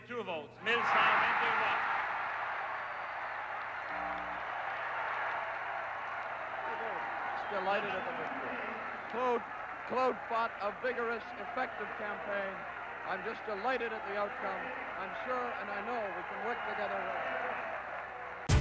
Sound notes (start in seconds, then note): 6.8 cheers and applause